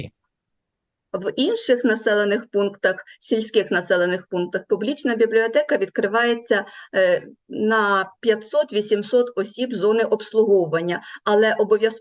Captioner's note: foreign Language